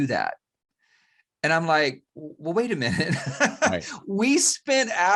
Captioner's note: laughs